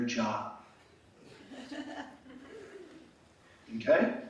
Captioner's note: laughing